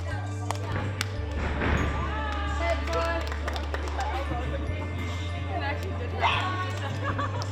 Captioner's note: feet thudding; gymnasts murmuring